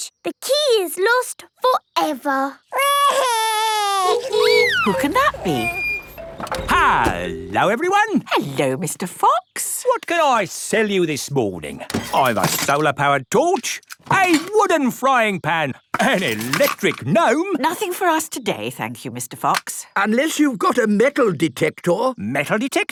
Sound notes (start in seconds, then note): 3.7 wailing; 4.1 honking